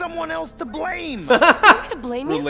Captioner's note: laughs